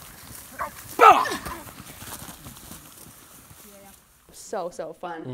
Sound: grass rustles; groans

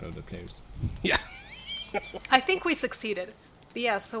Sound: laughs

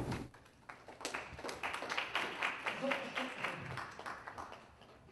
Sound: applause

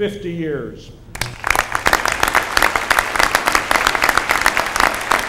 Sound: applause

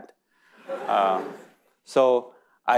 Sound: audience laughing

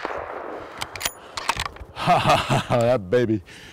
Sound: gunshot; laughs

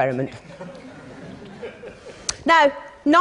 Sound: laughter

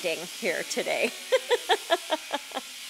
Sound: laughs

